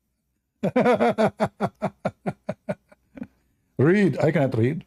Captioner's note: Ketawa